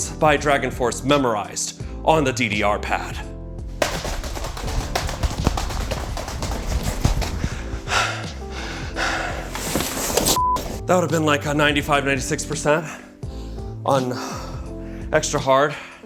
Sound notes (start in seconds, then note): 3.7 stepping quickly; 3.8 breathing heavily; 8.9 chair moving